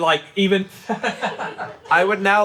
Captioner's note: crew laughing